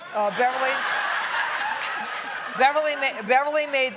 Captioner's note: laughing